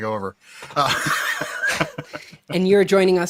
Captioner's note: guy laughs